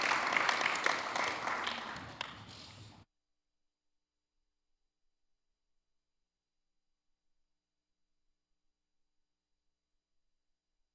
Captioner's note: applause